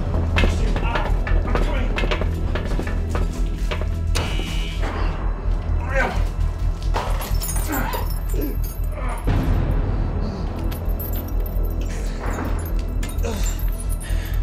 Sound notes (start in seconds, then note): 0.0 suspenseful music continues; 4.0 alarm buzzing; 6.6 chain clanking; 7.6 grunting; 9.1 tense music